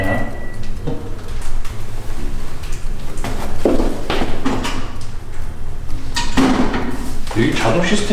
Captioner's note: the stove turned off automatically with a beeping sound